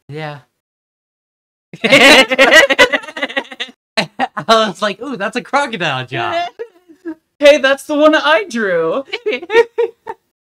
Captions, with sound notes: Yeah. [laughter] It's like, "Ooh, that's a crocodile job." Hey, that's the one I drew.